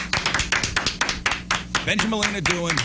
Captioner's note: applause